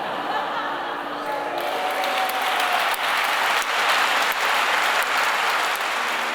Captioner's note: applause